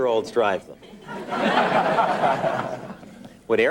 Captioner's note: laughing